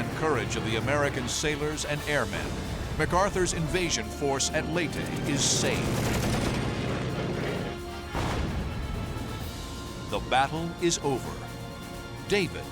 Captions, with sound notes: of the American sailors and airmen, MacArthur's invasion force at Leyte is saved. [rapid gunfire] The battle is over.